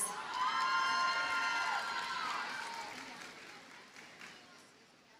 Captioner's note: audience cheers and applauds